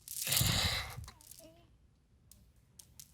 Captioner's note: sobbing